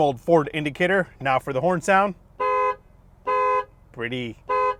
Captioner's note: horn sounds